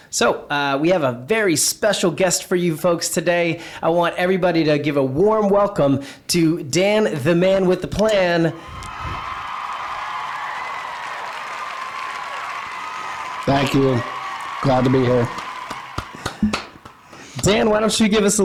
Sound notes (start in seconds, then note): 9.2 audience cheering; 16.7 clapping